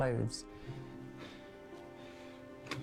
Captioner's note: breathing heavily